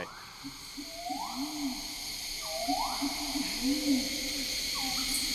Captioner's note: rainforest animals hooting